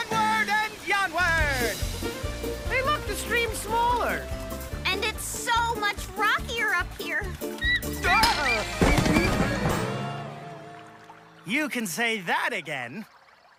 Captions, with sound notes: Onward and yonward! Hey, look, the stream's smaller. - And it's so much rockier up here. (birds calling) (yells) - You can say that again.